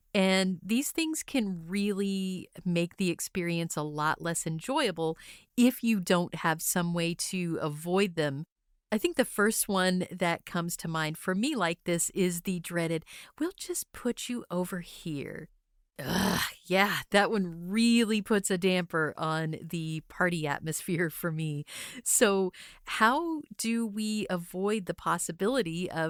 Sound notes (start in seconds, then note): 16.0 groans